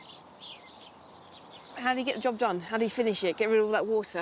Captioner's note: birds chirping